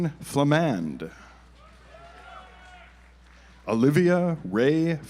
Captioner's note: audience applauds